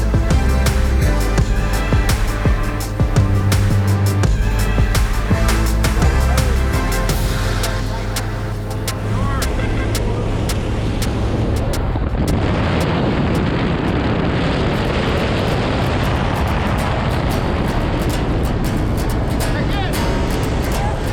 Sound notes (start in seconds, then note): 8.7 plane taking off; 14.4 intense wind